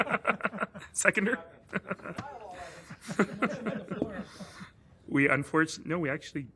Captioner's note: laughter